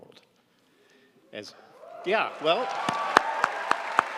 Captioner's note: audience cheering